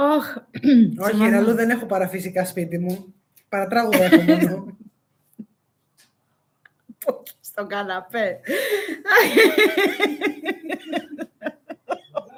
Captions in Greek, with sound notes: ωχόχαλ δεν έχω Έχω παραφυσικά σπίτι μου. Παρατράγουδα έχω μόνο. Πόχει στο καναπέ. [γέλια]